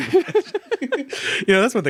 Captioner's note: both laugh